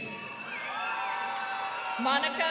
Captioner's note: crowd cheering